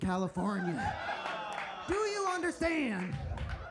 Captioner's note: audience laughs